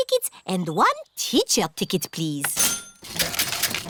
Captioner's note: cash register dings